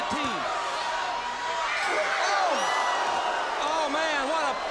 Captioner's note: crowd cheering